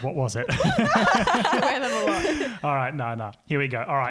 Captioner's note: laughing